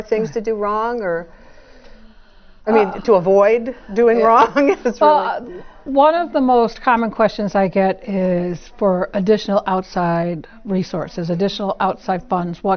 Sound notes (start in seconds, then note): 4.3 laugh